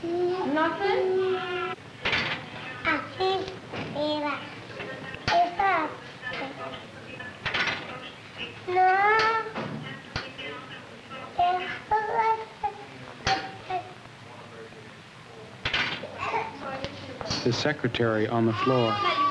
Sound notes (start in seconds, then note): 2.9 Spanish speaking